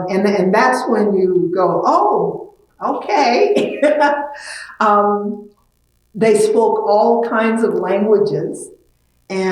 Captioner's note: laughs